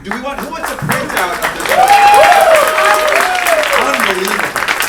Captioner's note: applaud; clapping